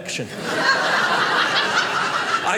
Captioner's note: audience laughing